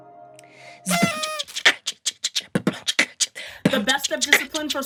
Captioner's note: noisemaker blows; beatboxes